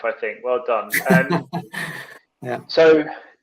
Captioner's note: laughing